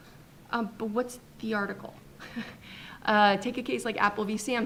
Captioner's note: chuckles